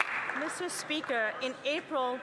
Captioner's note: some Applause